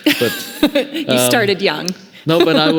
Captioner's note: laughing